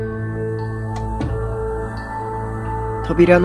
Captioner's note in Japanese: 扉を閉める音：バタン